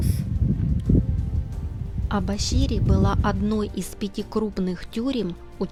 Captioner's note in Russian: закадровый голос